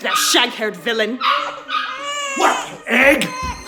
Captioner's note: dog barking, Baby crying